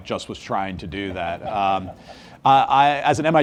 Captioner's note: audience laughs